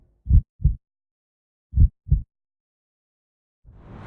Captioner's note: heart beats